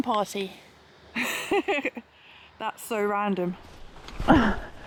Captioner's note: laughs